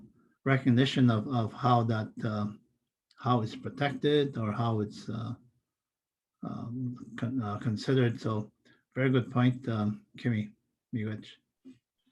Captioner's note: foreign language